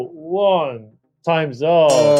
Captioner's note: bell ringing